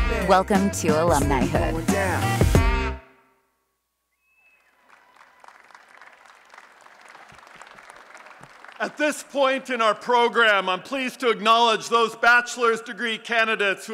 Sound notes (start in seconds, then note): 2.2 applause and Cheering